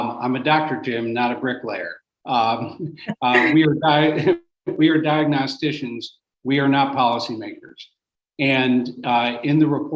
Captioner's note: laughter